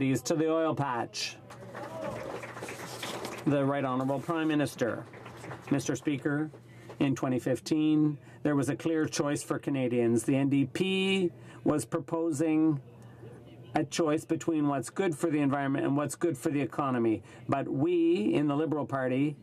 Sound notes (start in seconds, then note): 6.0 some Applause